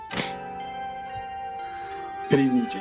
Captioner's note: fingers clicking